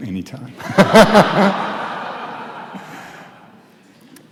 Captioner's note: audience laughs